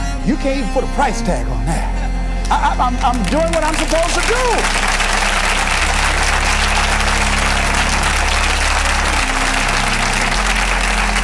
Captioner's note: applause